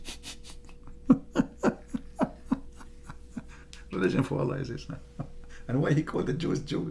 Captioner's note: Ketawa